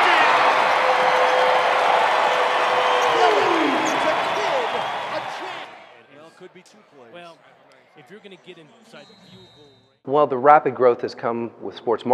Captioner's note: game noises